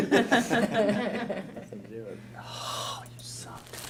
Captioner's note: whispers